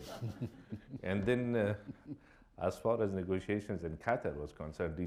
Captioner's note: chuckles